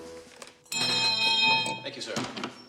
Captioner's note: rings bell